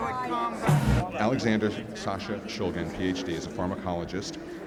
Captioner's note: voiceover